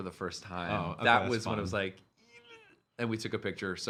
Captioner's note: exclaiming